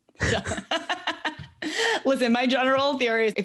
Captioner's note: laughs